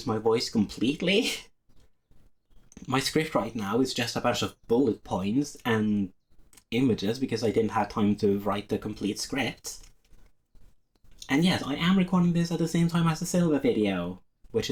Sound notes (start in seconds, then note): none